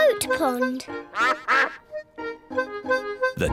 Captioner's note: duck quacks